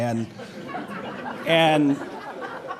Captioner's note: laughs